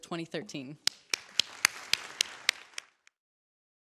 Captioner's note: applause